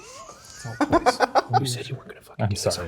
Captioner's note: Garrett laughing